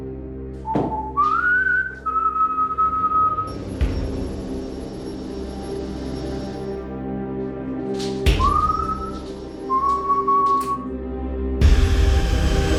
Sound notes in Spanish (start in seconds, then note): 0.7 Continúa silbando